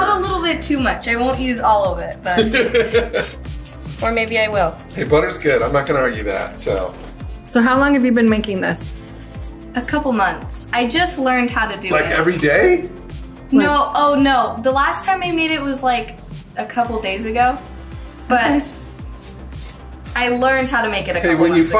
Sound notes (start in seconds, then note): 2.3 laughing